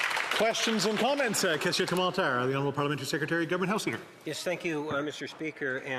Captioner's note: applause